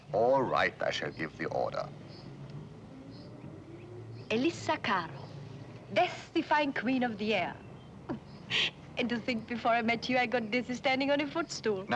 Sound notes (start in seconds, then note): 8.0 chuckles